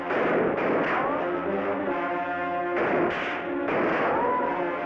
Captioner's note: gunshots bang